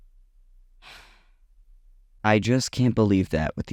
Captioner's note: exhales